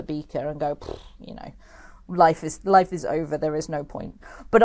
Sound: blows a raspberry

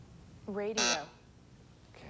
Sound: buzzer sounds

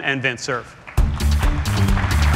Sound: applause

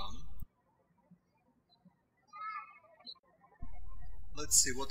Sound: birds chirping

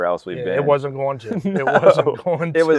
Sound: laughs

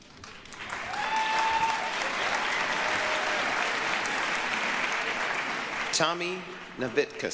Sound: applause, cheering

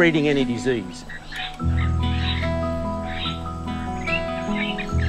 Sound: birds chirp

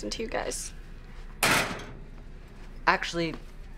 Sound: locker clanks

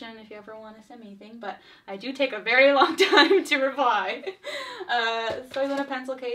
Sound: laughs

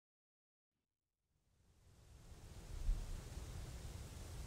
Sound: quiet sound of rustling leaves

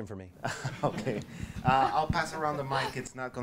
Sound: voiceover

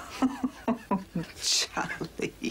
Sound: mom laughing

